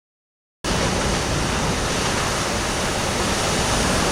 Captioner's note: waves crashing